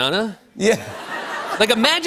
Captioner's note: laughter